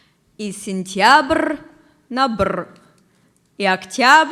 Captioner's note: reads a poem in Russian